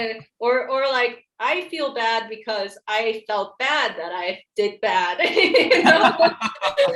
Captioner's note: laughs